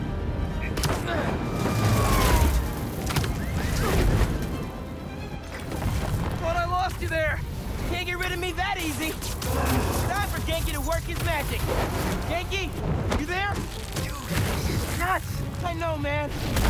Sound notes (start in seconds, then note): none